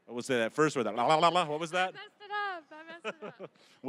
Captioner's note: laughing